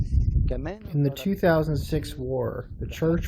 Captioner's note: through translator